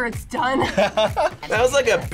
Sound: laughs

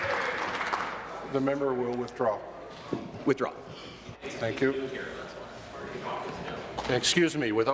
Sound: applause

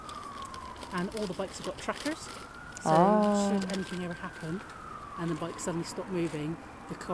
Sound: ahh

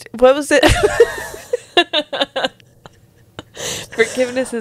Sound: panel laughing

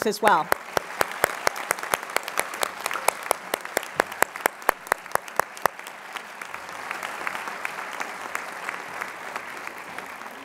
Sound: applause

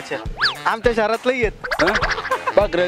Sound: laughter

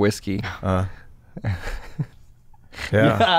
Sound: chuckles

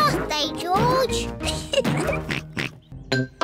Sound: laughs; oinks

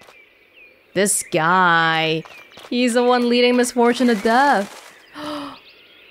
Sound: gasps

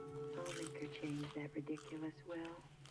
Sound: loud chewing

